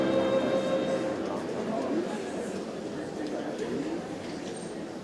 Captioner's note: group chattering